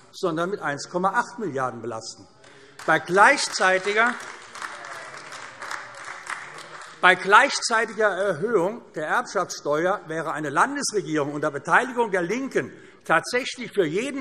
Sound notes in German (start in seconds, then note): 2.5 Beifall AfD - Zurufe DIE LINKE